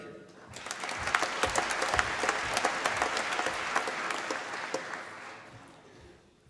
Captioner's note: applause